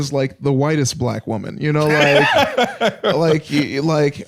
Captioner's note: laughs